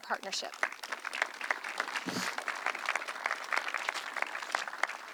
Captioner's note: audience clapping